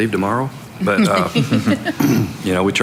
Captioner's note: laughing